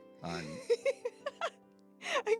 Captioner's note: laughing